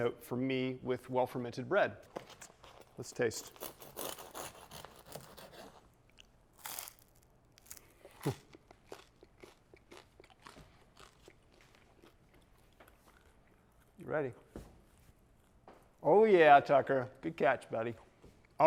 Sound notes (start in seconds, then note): 3.2 knife cuts; 6.5 teeth crunching